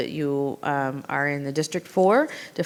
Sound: none

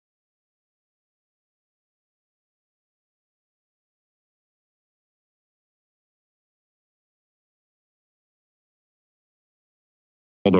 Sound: silence

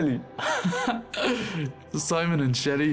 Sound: friend laughing

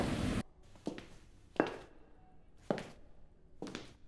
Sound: none

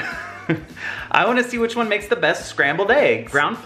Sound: laughs

